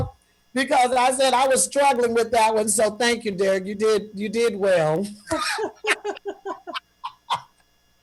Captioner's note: laughter